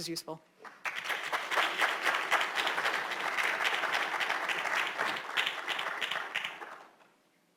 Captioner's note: applause